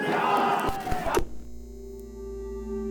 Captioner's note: television shutters off